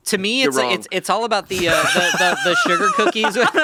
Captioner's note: laughing